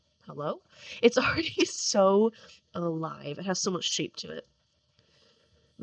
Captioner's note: laughing